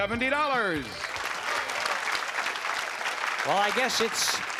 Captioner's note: applause